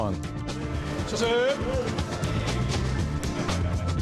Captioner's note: speaking in Japanese